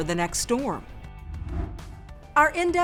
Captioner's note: air whooshes